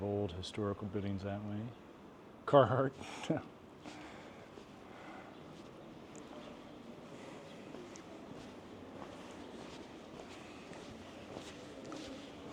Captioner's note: birds chirping